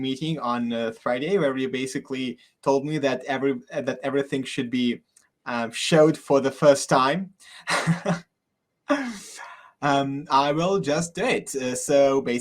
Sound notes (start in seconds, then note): 7.5 chuckles